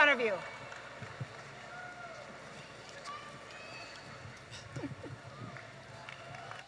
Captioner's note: audience applauding and cheering